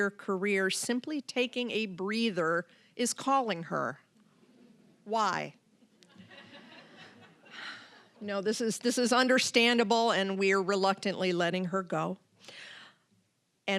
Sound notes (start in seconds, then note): 6.0 audience laughing